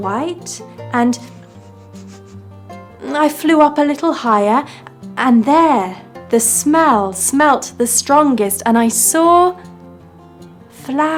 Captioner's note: sniff sniff sniff